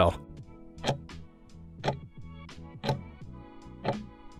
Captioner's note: timer ticking